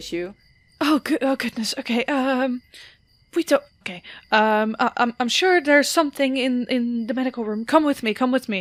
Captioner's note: nervously